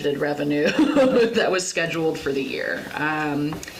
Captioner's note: laughs